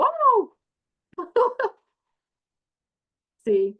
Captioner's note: laughs